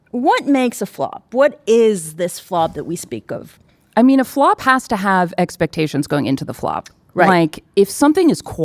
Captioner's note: none